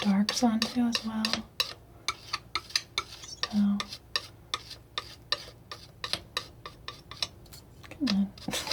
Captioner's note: scratching